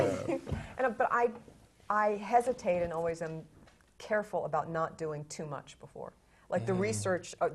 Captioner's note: laugh